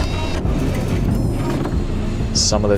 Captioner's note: wing flaps whirring